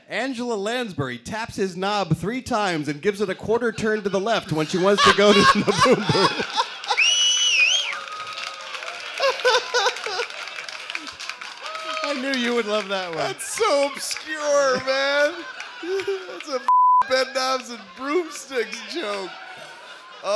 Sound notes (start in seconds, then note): 5.9 laughter